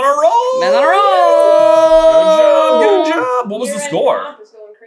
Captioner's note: team cheering